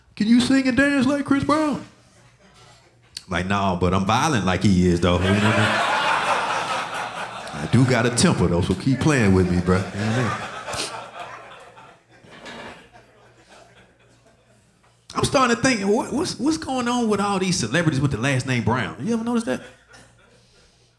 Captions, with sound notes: "Can you sing and dance like Chris Brown?" I'm like, "Nah, but I'm violent like he is though." (audience laughing) I do got a temper though, so keep playing with me, bro. I'm starting to think, what's going on with all these celebrities with the last name Brown? You ever notice that?